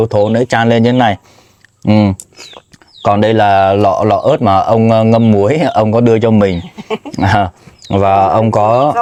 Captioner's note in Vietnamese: tiếng cười